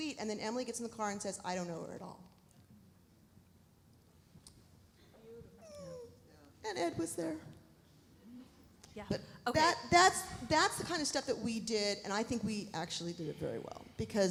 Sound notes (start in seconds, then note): 5.6 squeals